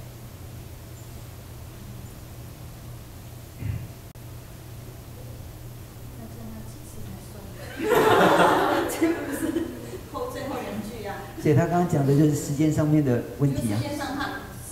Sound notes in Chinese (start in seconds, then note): 7.6 眾笑